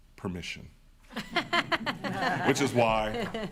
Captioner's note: attendees laughing